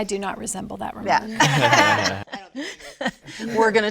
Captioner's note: all laughing